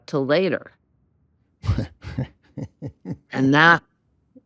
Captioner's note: chuckles